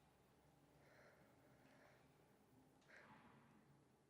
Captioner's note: sighs